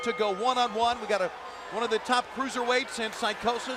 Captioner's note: bell ringing